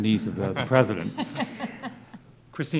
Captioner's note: audience laughs